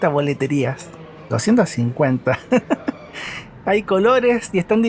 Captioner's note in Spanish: risas